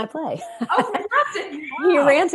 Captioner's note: laughs